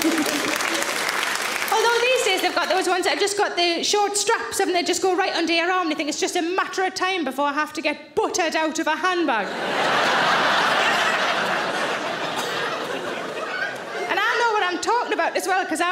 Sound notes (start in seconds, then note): 0.0 audience applauding; 9.4 audience laughing